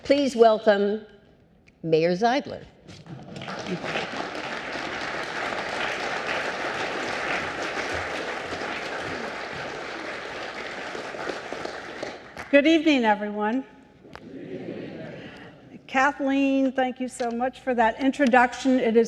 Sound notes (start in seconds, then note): 7.3 applause